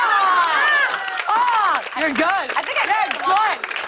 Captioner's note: applause